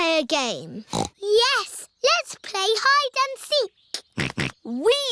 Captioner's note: snorts; snorting